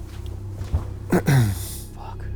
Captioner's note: clears throat